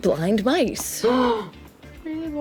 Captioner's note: gasps